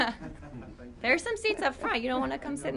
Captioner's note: laughter